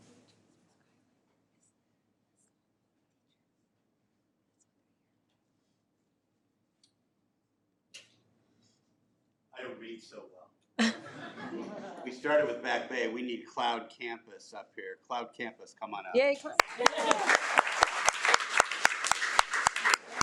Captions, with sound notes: - I don't read so well. (audience laughing) We started with Back Bay. We need Cloud Campus up here. Cloud Campus come on up. (audience applauding)